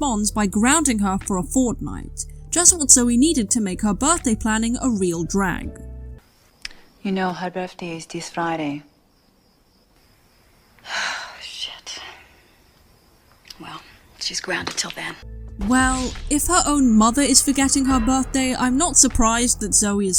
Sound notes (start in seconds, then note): 10.8 sigh